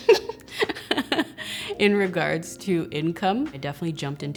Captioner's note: laughs